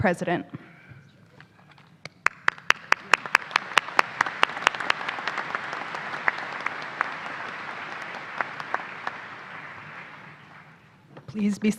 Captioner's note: applause